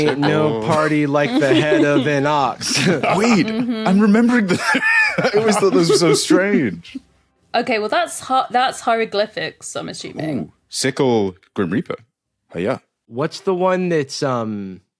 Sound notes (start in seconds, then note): 4.4 laughs